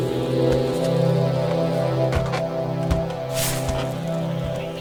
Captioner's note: footsteps on the doll house stairs